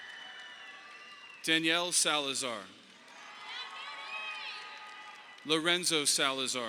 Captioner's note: audience applauding